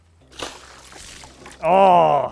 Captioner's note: water sloshing